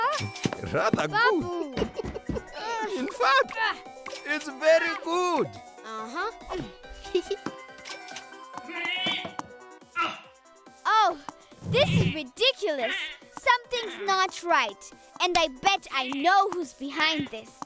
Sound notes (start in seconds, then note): 0.0 chuckling; 1.4 laughing; 8.2 angry grumbling